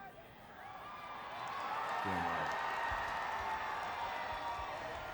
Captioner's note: crowd cheering